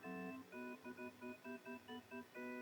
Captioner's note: none